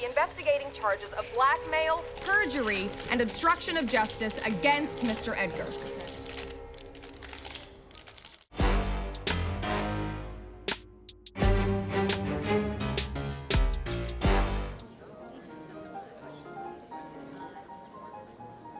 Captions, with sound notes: investigating charges of blackmail, perjury and obstruction of justice against Mr. Edgar. (cameras clicking) (funky music)